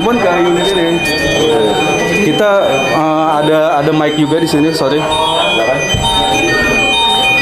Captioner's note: calling sound; calling sound